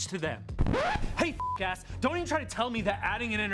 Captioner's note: record scratches; beep